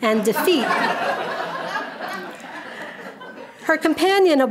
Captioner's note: audience laughing